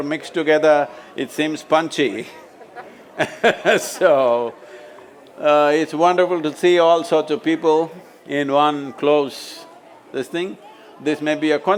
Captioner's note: laughs